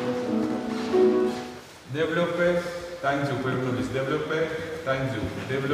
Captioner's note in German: Musik stoppt, gibt Anweisungen auf Russisch